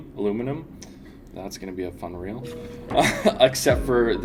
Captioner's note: laughs